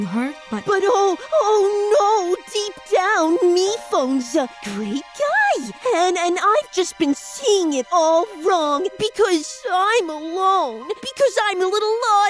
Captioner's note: mocking